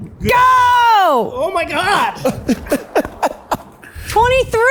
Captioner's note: laughs happily